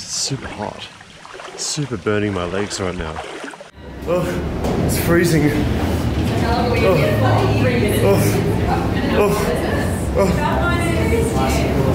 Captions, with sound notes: It's super hot. Super burning my legs right now. Ugh, it's freezing, (people chatting) Oof! Oof! Oof! Oof!